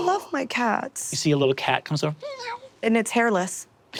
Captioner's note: meows